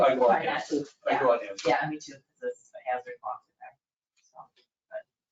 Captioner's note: people chattering